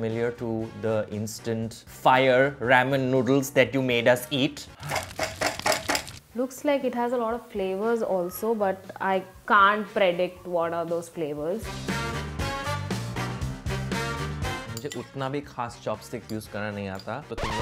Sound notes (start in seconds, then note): 4.8 table banging; 11.6 upbeat music